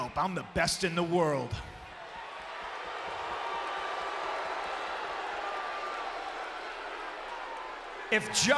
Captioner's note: applause